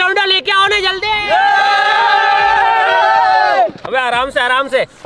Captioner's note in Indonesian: teriakan gembira